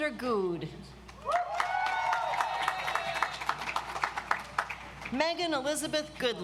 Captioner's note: audience applauds